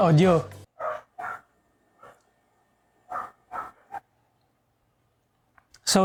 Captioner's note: dog barking